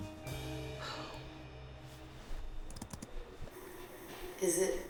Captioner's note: Rachel sighs